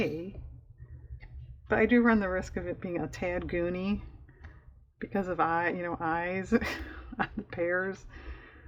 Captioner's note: laughs